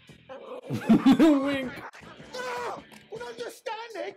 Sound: laughter

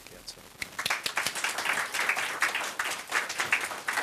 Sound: applause

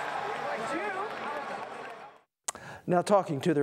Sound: crowd noise

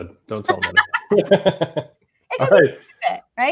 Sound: both chuckle

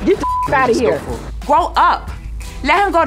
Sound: beep

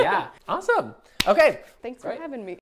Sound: claps

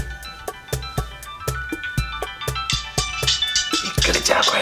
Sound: phone rings

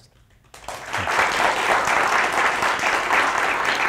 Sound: applause

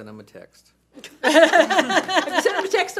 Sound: audience laughs

